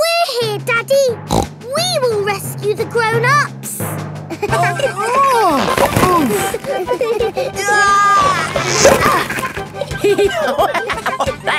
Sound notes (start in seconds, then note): 1.3 snorts; 4.3 giggling; 5.4 grunting; 7.5 giggling; 10.2 laughing